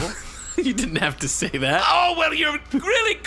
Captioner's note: laughing